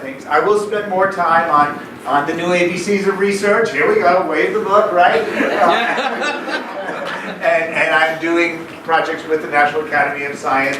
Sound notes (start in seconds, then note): 5.2 laughing